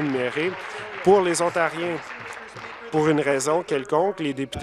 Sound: applause

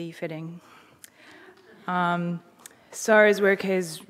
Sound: audience chuckling

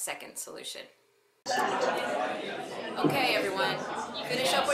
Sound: sound of noisy classroom

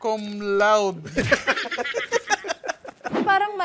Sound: laughter

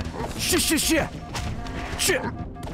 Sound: fighting noises

